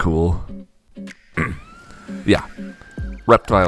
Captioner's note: clears throat